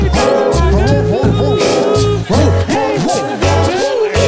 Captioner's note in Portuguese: latidos